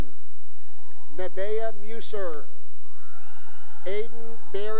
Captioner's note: cheering; cheering